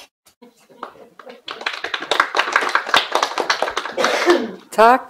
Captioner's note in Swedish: Applåder